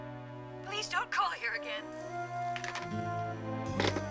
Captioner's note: receiver hangs up